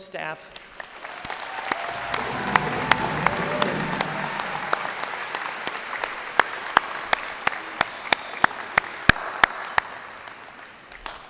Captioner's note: applause